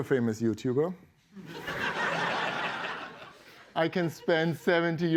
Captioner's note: laughter